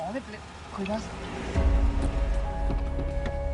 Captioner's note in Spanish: Sonido del motor